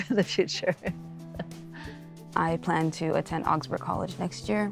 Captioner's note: laughs